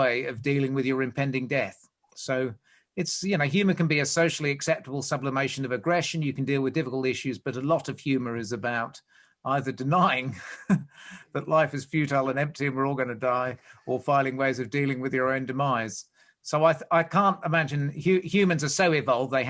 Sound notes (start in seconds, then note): 10.4 laughs